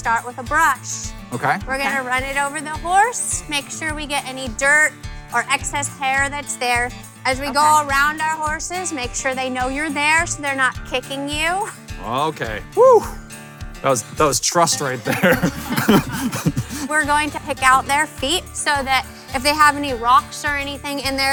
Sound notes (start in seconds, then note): 14.9 laughs